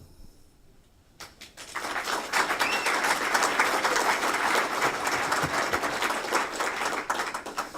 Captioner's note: applause